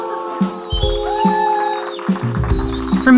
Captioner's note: cheers